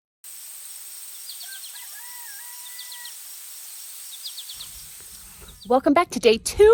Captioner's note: nature Sounds